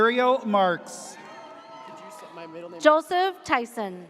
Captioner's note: audience cheers